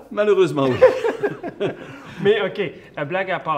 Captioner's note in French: rires